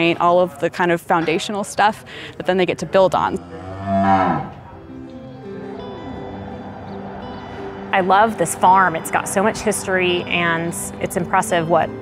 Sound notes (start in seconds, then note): 3.1 cow mooing